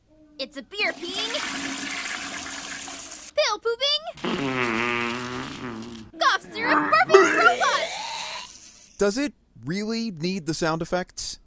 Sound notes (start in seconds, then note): 0.8 flushing toilet sound effect; 4.1 fart noise; 7.3 vomit sound effect